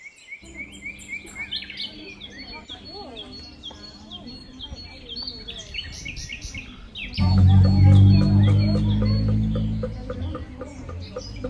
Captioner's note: indistinct chatter